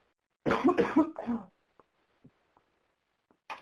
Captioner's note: coughing